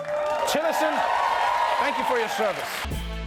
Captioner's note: cheering and applause